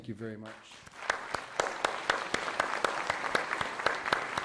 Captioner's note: applause